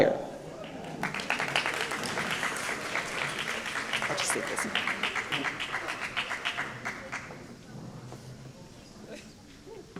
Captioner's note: applause